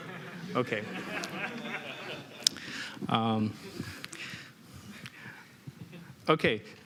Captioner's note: laughter